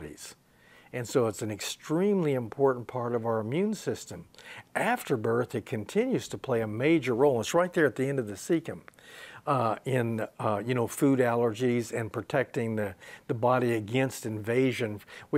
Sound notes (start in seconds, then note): none